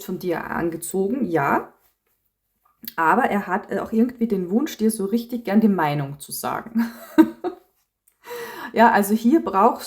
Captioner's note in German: gelächter